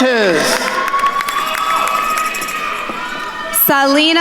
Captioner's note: attendees cheering and applauding